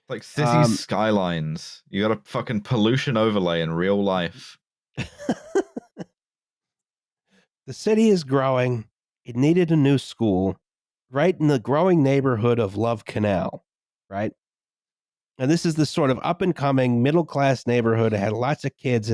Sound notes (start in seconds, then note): 5.0 laughs